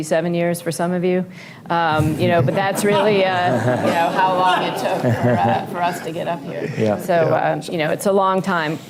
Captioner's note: laughter